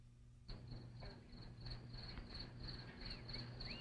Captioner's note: crickets chirping